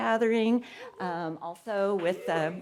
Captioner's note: audience cheering